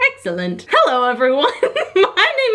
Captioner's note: laughs